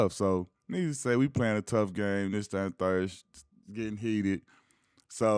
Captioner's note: none